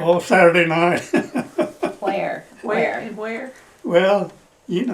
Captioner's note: laughs